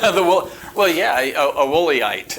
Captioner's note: chuckling